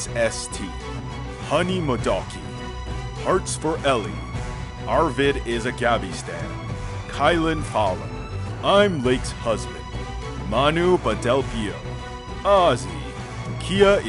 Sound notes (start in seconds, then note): none